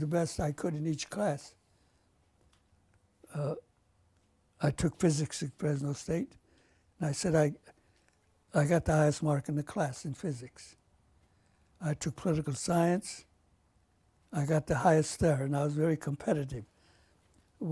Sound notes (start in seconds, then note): 1.5 pauses for 3 seconds